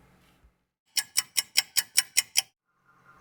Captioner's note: clock ticking